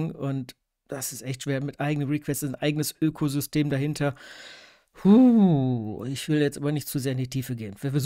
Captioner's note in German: Stöhn